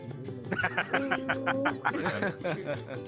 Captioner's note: laughing